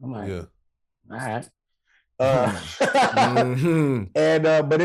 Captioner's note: Rel laughing